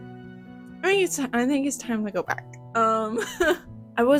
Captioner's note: laughter